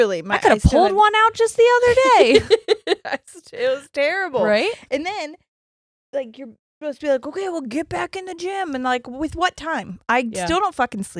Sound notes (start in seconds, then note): 1.8 laughs